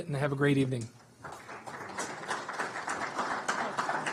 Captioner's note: audience applauds